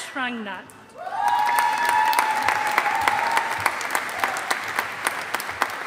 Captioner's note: audience applauding